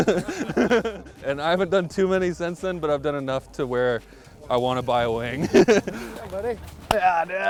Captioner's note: laughs